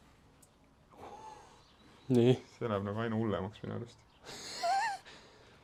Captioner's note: gasps